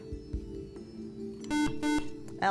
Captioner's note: buzzer